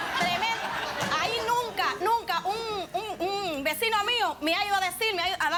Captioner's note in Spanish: risas